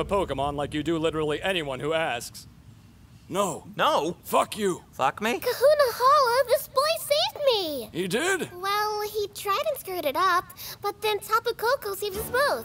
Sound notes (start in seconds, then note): none